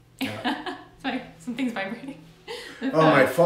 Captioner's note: laughing